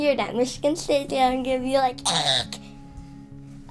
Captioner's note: squawks